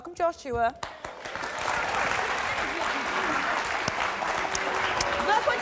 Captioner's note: audience applauding